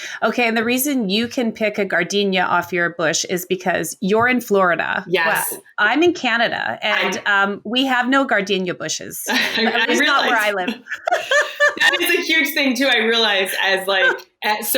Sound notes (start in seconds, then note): 9.3 laughing; 9.4 murmurs